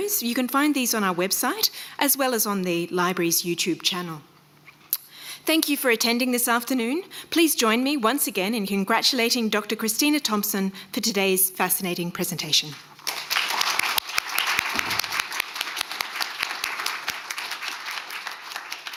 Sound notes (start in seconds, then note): 13.0 crowd applauding